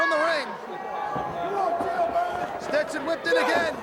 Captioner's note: crowd chatter